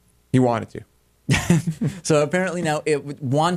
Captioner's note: laughter